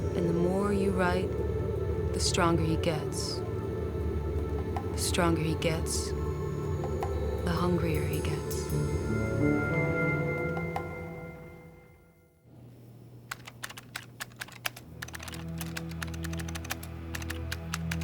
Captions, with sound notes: And the more you write, the stronger he gets. The stronger he gets, the hungrier he gets. (haunting music) (keys clicking) (ominous music)